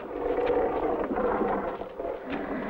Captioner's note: monsters roaring